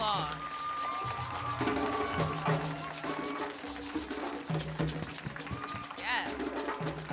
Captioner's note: audience cheering; drum music